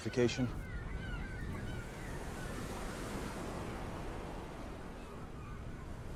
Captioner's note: birds Chirping